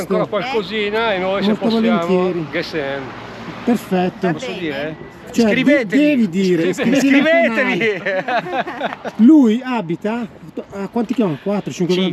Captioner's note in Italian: Risate